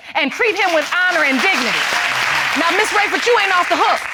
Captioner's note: audience applauding